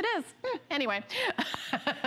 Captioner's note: laughter